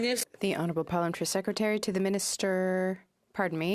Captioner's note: speaking in French